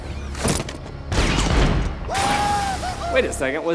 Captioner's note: guy screams